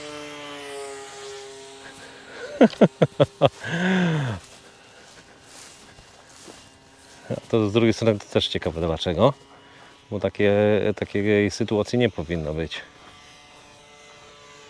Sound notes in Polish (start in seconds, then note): 2.3 śmiech